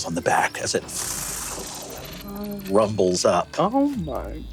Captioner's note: steam engine whirring